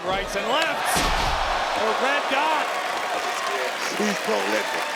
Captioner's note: audience gasping